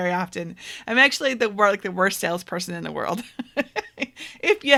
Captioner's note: laughs